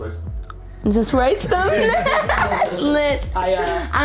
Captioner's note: laughs